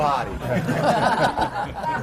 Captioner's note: laughter